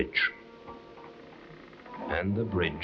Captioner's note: gentle uneasy music; bridge creaking